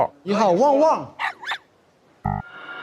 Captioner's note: woof, woof